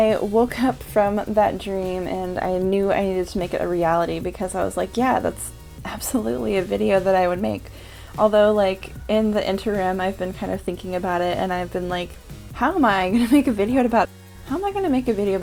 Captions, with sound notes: I woke up from that dream and I knew I needed to make it a reality because I was like "Yeah that's... absolutely a video that I would make." Although like in the interim I've been kind of thinking about it and I've been like "How am I gonna make a (stumbling over word) videodabout" "How am I gonna make a video